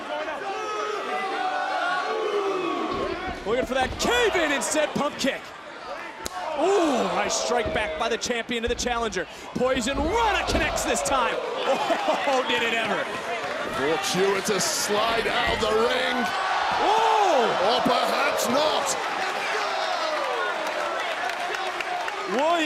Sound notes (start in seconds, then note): 11.6 laughs